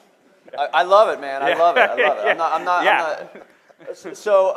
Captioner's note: laughing